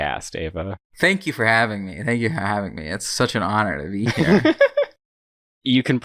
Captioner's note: laughs